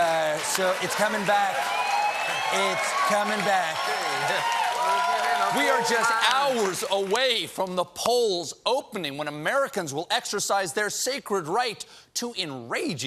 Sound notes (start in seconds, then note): 0.0 cheers and applause